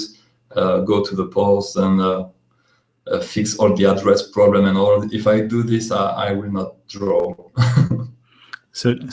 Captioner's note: laughs